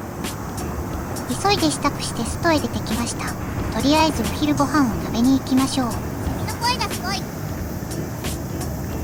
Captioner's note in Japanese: 蝉の声がすごい